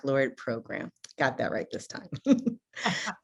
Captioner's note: laughs